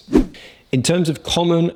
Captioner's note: swoosh